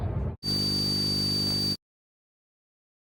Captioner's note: high-pitched buzzing